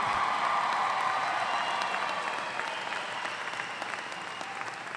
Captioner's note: audience applauding